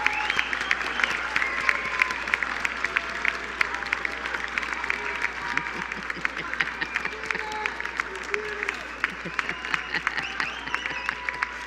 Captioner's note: applause